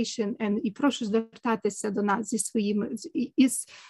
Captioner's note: speaking ukrainian